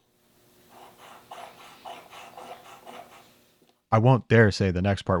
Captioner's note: metal grinding